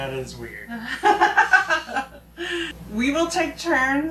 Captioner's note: laughing